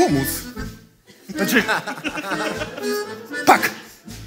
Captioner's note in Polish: śmiech